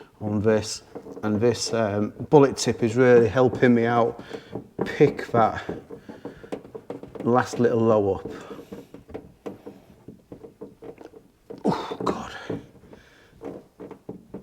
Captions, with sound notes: on this and this bullet tip is really helping me out pick that last little low up Oh heck (struggling)